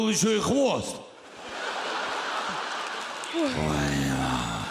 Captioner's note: laughter